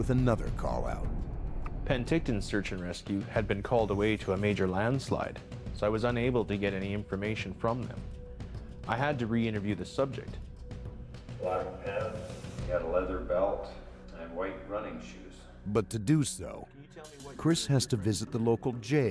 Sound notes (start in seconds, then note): 3.8 voiceover